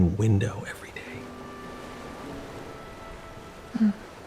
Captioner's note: ocean waves rolling in